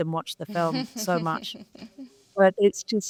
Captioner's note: panelists laughing